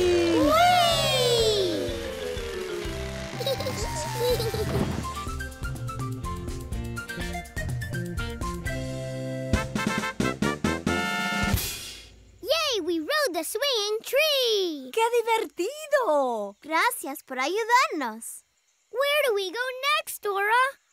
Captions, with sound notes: Whee! [giggling] [trumpet playing] Yay, we rode the Swinging Tree! Qué divertido! Gracias por ayudarnos! Where do we go next, Dora?